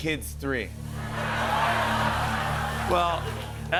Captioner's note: laughter